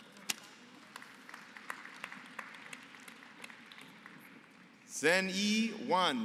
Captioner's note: applause